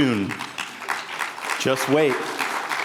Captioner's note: attendees applauding